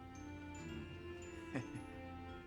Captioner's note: chuckles